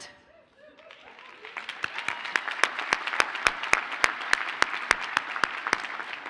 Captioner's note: audience cheers and applauds